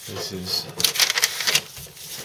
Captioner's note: paper rustles